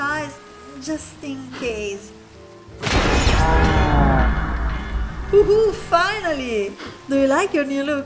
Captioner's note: thunder strike